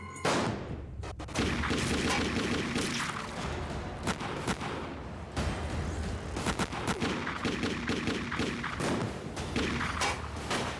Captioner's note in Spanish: continúa la balacera